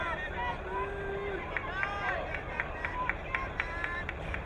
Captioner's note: crowd cheering